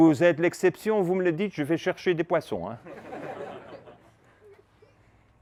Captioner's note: laughs